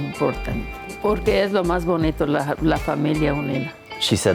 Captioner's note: speaks in Spanish